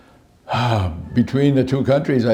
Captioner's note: exhales